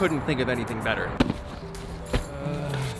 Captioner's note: bag flips open